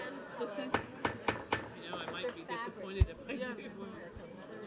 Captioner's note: gavel pounding